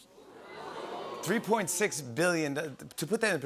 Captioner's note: audience oohs